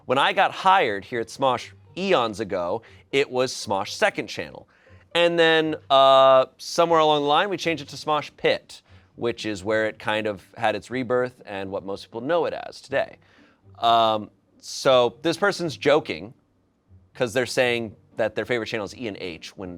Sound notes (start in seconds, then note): none